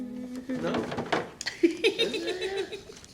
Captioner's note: laughter